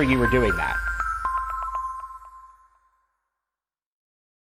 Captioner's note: cheerful chiming